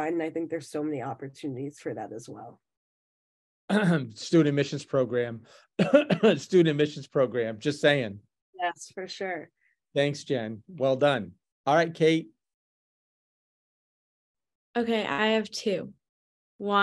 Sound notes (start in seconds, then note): 5.7 coughs